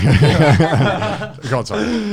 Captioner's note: all laughing